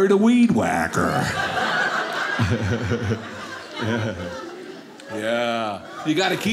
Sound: audience laughing

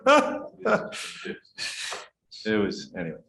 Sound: laughter

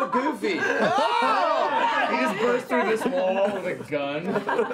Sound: laughing

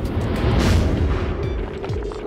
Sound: explosion

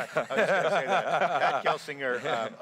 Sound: laughing

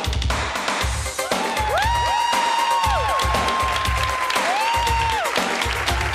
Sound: engaging music; crowd yells and applauds

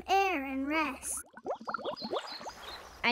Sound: sounds of bubbles

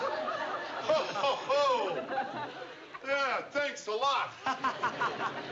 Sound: laughs; laughs

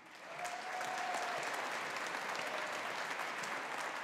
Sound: audience applauding

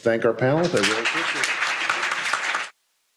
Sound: applause

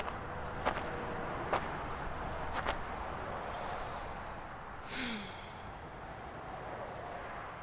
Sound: car door closes, then walking noises; breathing

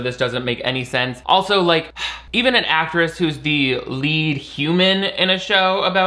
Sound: sighs

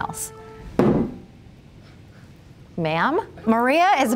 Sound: book thumping

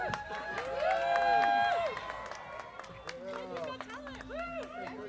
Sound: students cheering

